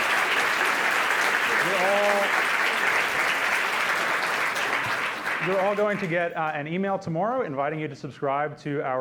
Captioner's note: applause